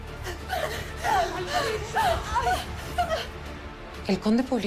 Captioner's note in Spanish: Quejidos